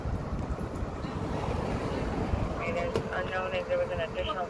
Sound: scuffle echoes intensify

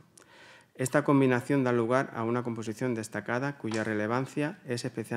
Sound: continues in Spanish

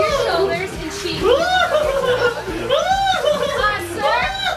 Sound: dad's laughter drowns out Mom

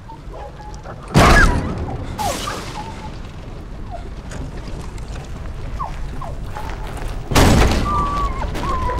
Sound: dog whimpering, movement outside

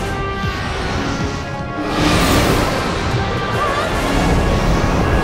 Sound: whooshes

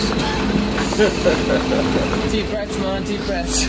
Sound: laughs

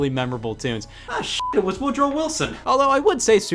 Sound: beep

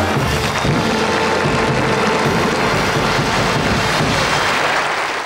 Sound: audience applauding

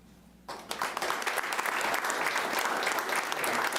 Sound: applauding

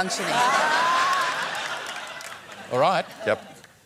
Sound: laughter

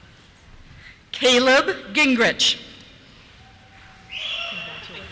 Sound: cheers

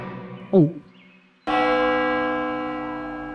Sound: gulps; bell tolls

